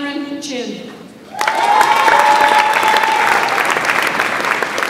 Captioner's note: audience applauds